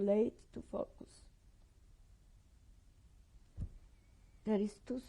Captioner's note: pauses for 3 seconds